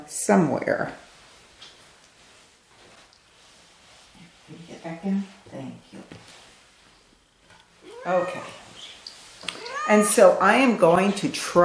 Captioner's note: cat meow; meow